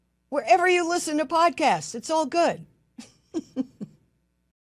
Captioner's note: laughs